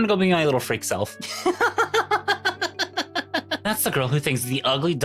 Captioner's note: laughing